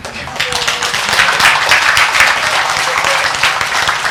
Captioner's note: congregation applauds